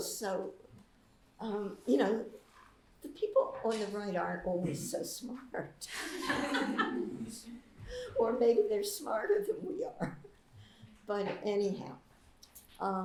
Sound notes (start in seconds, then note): 5.9 laughter